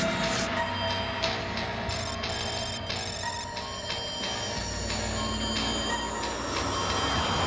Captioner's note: alarm